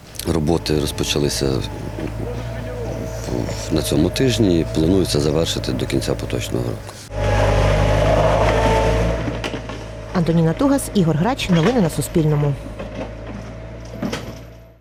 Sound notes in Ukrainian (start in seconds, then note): 6.9 звук трактора